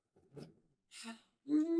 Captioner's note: moaning; sigh; moaning